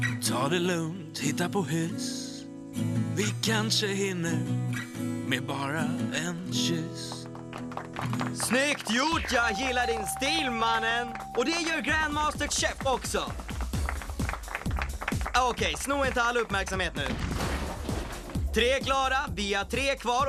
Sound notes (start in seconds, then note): 7.2 applause; 9.3 dinging